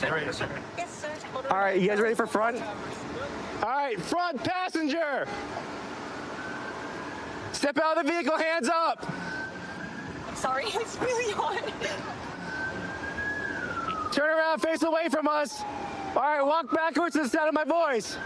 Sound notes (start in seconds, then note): 11.8 siren wailing